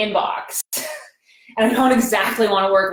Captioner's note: laughs